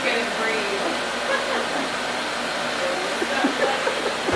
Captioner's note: laughing